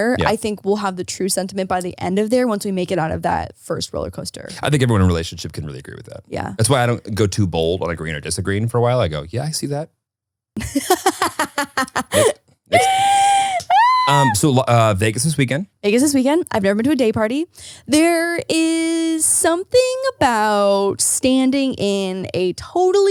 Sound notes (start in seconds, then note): 10.6 laughing